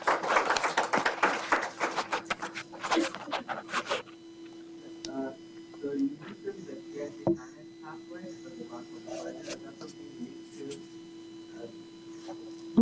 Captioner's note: applause